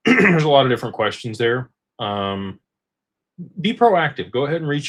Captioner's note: clears throat